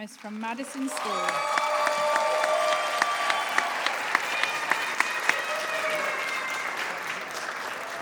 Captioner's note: applause